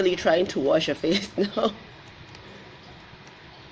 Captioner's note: laughs